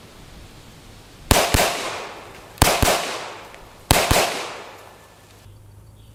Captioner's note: gun fires